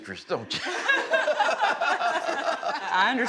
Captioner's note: laughing